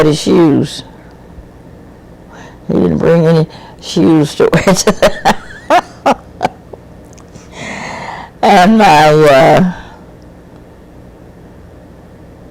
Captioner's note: laughs